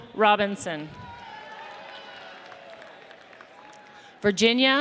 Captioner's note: audience cheers